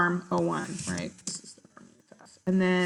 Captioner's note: off mic